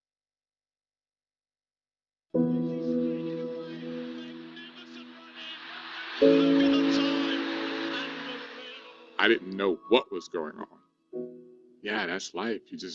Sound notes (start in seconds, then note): 2.6 soft music; 4.8 chattering